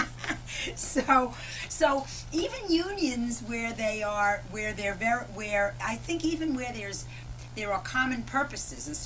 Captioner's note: laughter